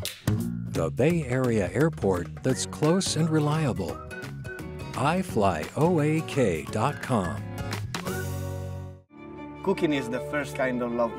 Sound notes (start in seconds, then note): none